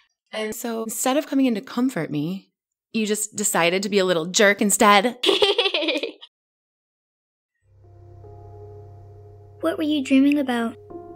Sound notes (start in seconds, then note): 5.2 Esther laughing; 7.7 tender music